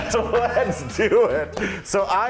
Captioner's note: laughing; claps hands